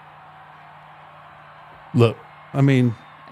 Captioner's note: audience cheering